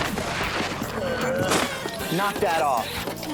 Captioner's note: crack